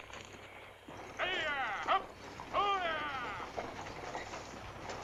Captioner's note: stagecoach driver shouts; stagecoach rattles